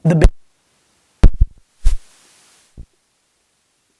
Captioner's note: crackling